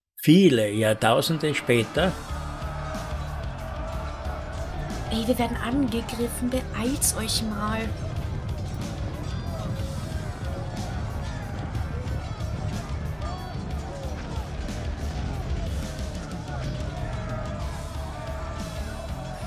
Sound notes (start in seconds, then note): 2.1 cry of the knight; 8.2 steps